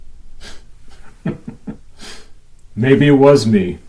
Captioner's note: laughs